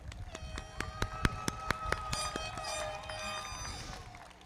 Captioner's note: everybody clapping; audience cheering; foghorns blowing